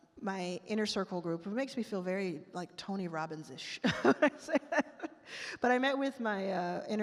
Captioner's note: laughs